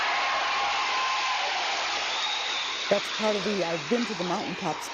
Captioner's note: audience applauds